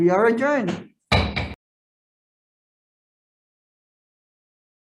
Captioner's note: gavel bangs